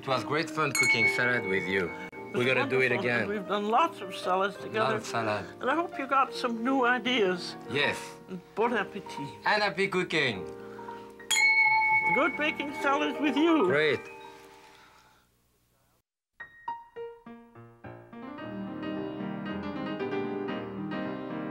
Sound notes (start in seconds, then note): 11.2 glass clink; 16.4 theme music